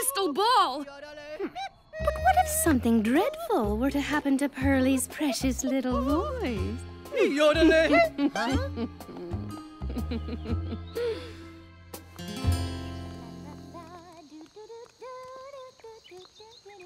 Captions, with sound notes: Hmm. But what if something dreadful were to happen to Pearlie's precious little voice? Yodelay hee-- huh? (Snickering) (Pearlie humming)